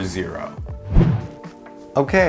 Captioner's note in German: Wusch